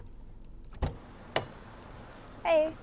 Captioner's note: car door opening